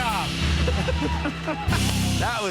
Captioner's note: both laugh